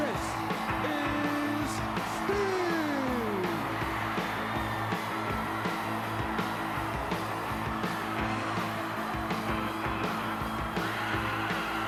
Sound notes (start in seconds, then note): 3.5 crowd cheers; 5.5 music continues